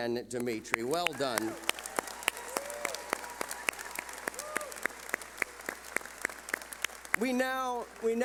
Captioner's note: cheering